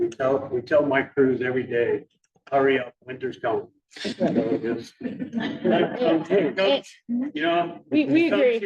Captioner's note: laughter